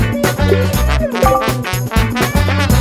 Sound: message chimes

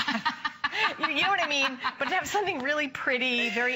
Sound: laughter

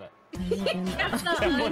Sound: laughing

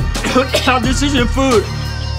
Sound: coughs

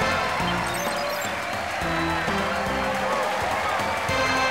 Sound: cheering

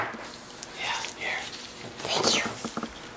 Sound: whispering

